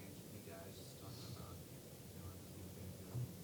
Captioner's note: faintly speaks